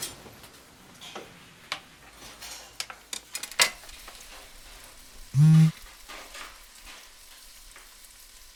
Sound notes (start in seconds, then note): 5.3 celular vibra